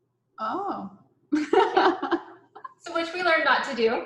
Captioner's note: laughs